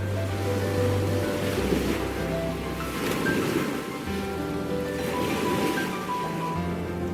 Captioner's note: sound of waves